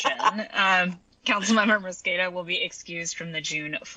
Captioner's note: laughter